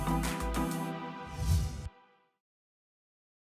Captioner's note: whoosh